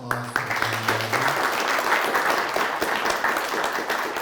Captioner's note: applause